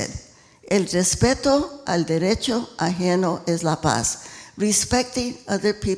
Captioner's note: speaking in foreign language